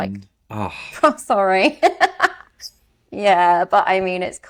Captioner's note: laughs